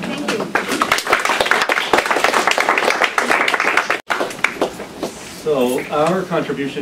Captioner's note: applause